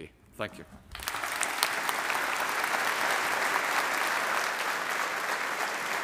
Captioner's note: audience applauding